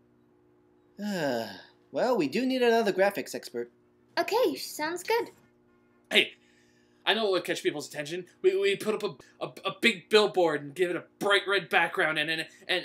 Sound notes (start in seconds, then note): 1.0 boss sighs